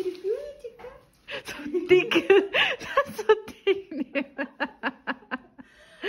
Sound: laughs

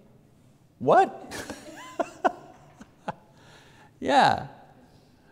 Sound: laughs

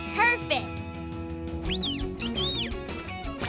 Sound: tweeting

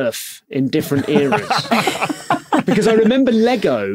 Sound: others laughing

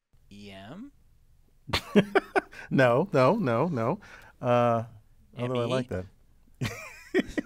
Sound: laugh

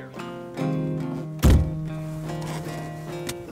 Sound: car door closing

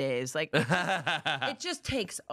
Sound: laughs

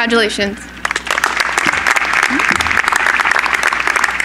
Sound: applause

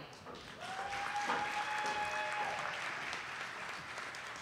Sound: audience applauding

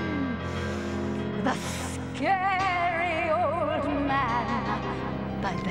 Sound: in scary voice; in normal voice

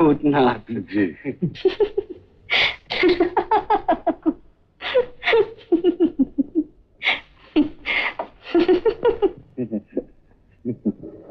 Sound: laughs

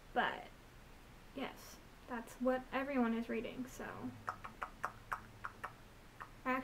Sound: clicks tongue a lot of times

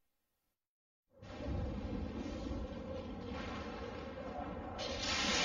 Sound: thunders rumbling; lightning crashing down as rousing fanfare plays

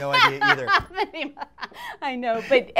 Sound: laughing

